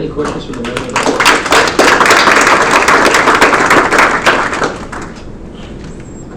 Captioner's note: clapping